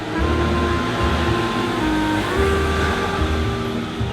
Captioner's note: engines humming; mellow music